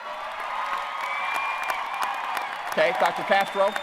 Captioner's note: applause